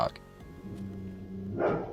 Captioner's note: grrr